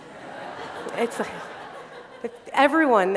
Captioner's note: laughter